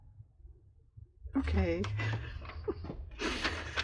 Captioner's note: laughs